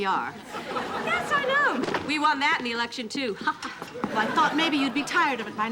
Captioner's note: laughing